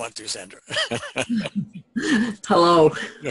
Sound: laughs

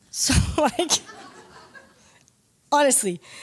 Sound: laughter

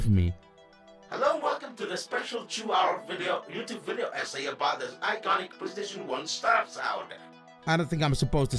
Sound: ChatGPT voice

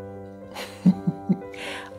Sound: chuckle

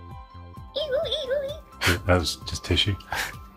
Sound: blows

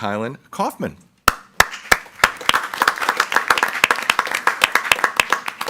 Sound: group applauding

